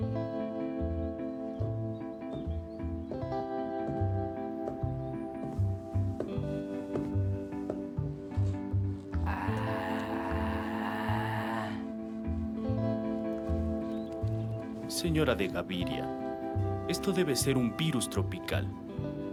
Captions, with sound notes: [slow electric guitar] [footsteps] Señora De Gaviria, this must be a tropical virus.